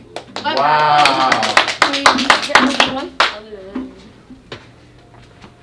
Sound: hands clapping

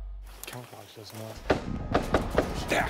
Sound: gunfire

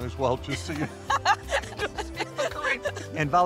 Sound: both laughing

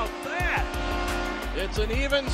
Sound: goal horn blares

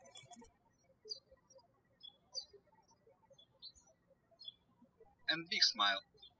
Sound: birds chirping

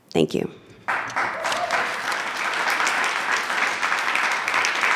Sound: attendees clapping

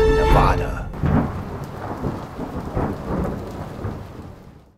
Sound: thunder

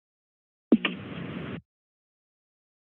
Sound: silence; thuds; silence

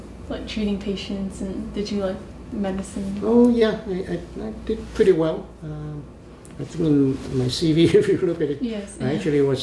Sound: laughs

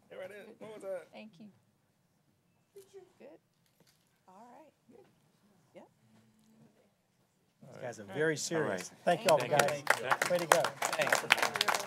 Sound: applause

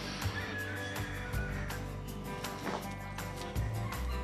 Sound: rooster crow

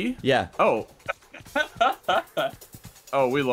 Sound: more laughter

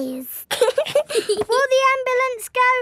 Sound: both giggling

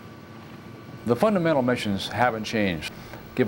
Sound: voiceover

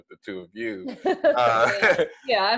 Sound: laughs

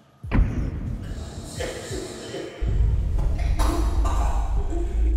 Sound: coughing

